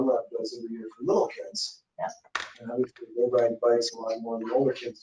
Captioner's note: speaking faintly